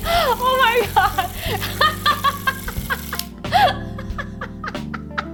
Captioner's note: laughing